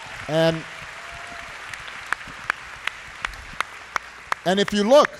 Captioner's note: applause